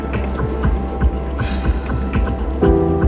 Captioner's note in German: Seufzen